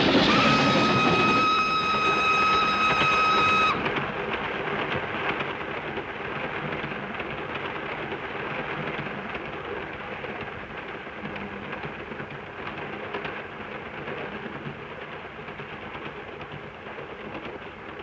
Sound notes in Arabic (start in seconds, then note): 0.0 صافرة القطار; 0.3 هدير القطار; 3.9 صوت خشخشة القطار